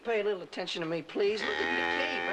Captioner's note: bellows